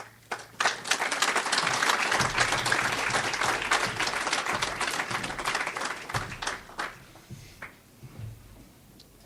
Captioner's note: audience applauds